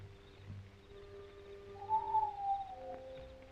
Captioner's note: whistling call